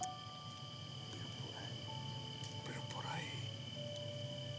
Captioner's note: speaking spanish